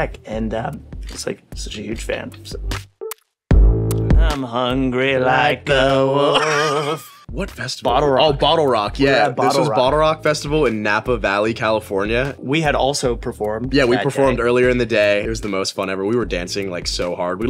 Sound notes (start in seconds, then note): 6.2 both laughing